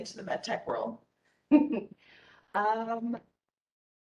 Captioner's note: giggling